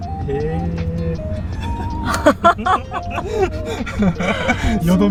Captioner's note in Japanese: 笑い